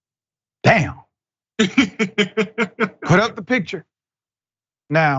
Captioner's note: laugh